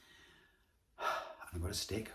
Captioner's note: sighs